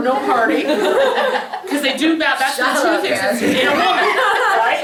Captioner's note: laughs